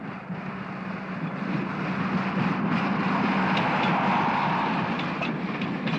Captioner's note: train passes